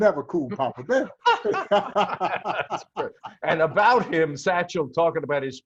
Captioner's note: laughter